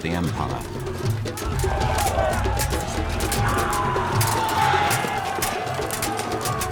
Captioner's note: weapons clanging; soldiers shouting